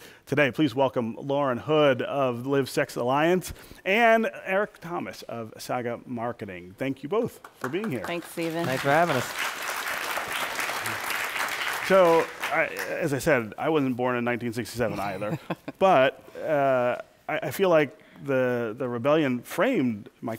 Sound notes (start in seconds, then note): 7.4 applause; 15.2 laughter